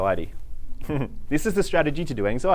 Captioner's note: giggling